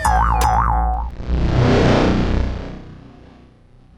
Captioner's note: comical music; electronic sound effect